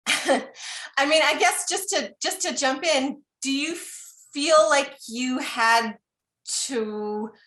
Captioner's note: laughter